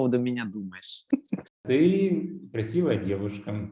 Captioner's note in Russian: Смеется